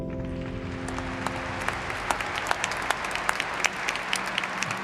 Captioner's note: audience applauding